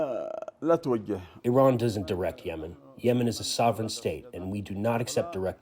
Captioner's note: through translator